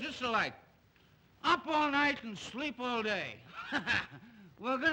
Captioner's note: laughs